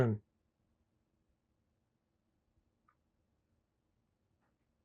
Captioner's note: pauses 6 seconds